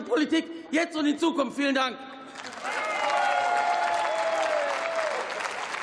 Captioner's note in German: Beifall